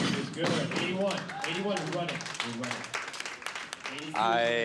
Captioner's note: applause